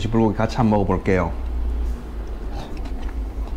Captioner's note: biting